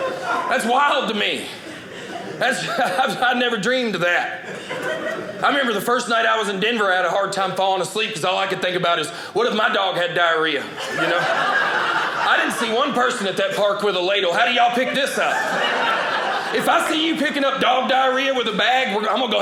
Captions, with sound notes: That's wild to me. I never dreamed that. I remember the first night I was in Denver I had a hard time falling asleep because all I could think about is what if my dog had diarrhea. (audience laughing) I didn't see one person at that park with a ladle. How do y'all pick this up? (audience laughing) If I see you picking up dog diarrhea with a bag, I'm going to go ahead